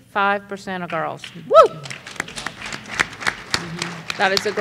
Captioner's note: applause